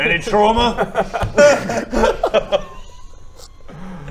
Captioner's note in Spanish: carcajadas